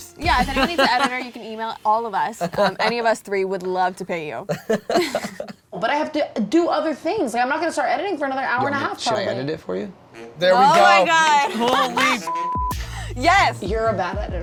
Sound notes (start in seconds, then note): 0.2 laughs; 4.5 laughs; 12.2 beep